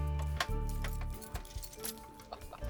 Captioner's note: chuckling